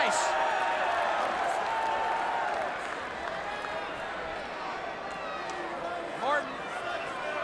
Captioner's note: crowd cheering